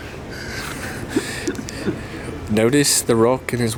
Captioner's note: chuckles